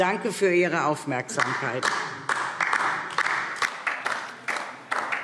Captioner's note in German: Beifall